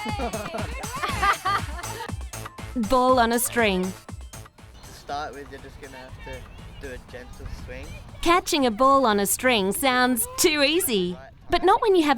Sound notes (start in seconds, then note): 0.0 laughing; 8.2 voiceover